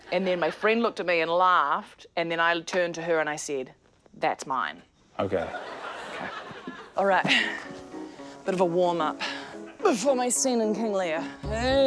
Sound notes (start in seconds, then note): 5.4 laughter; 7.6 exhales sharply